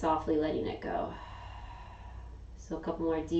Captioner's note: exhaling